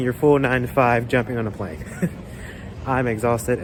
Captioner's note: chuckles